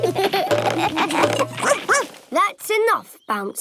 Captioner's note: all laugh; barks